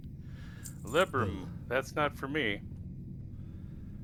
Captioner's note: laughs